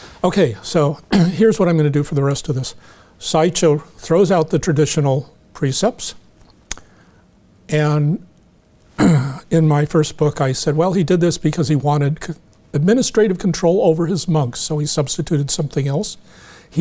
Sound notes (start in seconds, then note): 9.0 clears throat